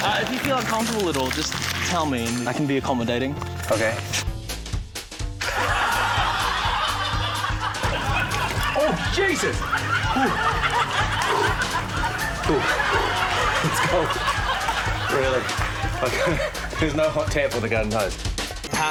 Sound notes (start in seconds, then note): 5.7 laughter; 9.8 exhales